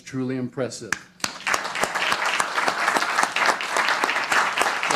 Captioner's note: applause